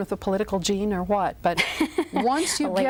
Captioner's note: laughs